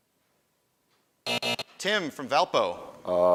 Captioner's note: buzzing